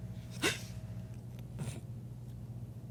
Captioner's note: gasps